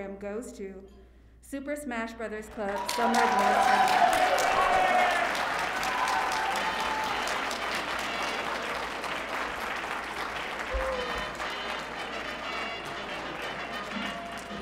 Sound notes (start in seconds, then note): 2.9 audience applauding; 10.8 light music